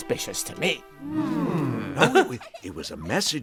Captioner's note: crowd hmmmms